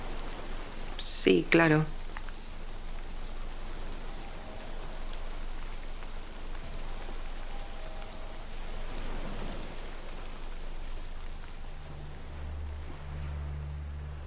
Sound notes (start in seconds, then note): 8.6 waves crashing